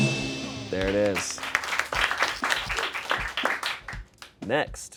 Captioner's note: bell dings; audience applauds